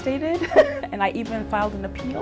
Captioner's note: laughs